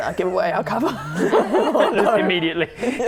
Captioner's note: laughing